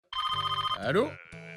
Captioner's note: phone ringing